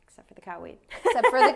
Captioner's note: laughs